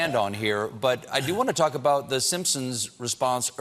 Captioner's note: laughter